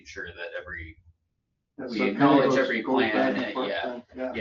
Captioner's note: overlapping chatter